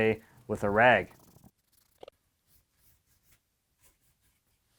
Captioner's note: rubbing